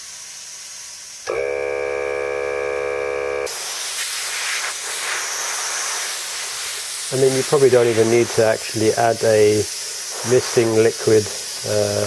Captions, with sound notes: [Compressor turn on automatically] I mean you probably don’t even need to actually add a misting liquid.